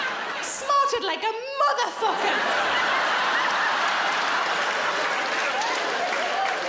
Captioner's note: audience laughs